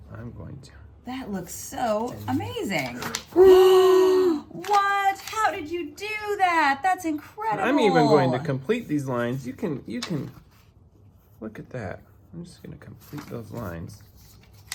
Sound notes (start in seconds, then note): 2.9 gasp